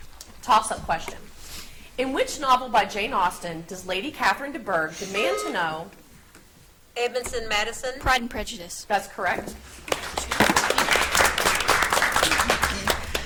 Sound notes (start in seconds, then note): 5.0 buzzer beeps; 9.9 audience applauds